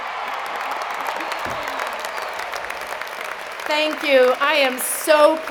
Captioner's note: cheers and Applause